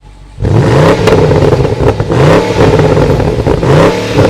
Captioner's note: car engine revving